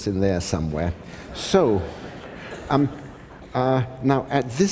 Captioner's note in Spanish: Risas